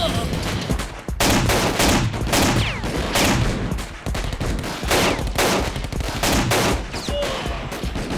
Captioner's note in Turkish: si̇lah sesleri̇